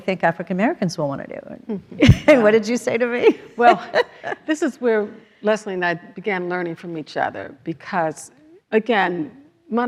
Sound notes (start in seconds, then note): 3.2 laughs